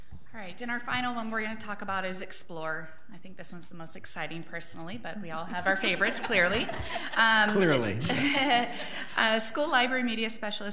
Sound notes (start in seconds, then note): 5.7 librarians laughing; 8.1 board laughing